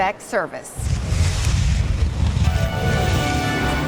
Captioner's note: whooshing